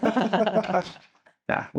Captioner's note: both laughing